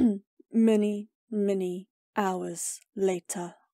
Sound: Spongebob Narrator Voice

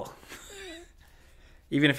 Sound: chuckles

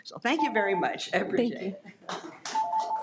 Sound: audience applauds

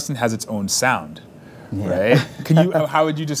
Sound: laughs

